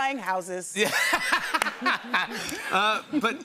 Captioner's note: laughter